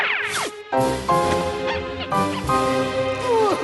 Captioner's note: squeak! Squeak! Squeak!; laughs maniacally